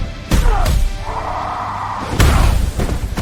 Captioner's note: screams